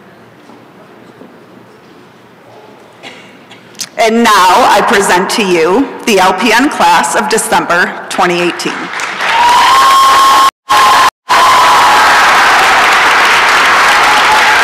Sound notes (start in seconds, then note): 10.6 applause and cheering